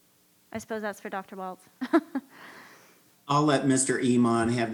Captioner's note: laughs